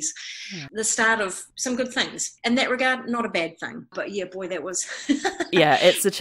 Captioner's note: laughs